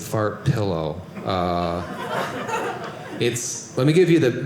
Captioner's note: audience laughing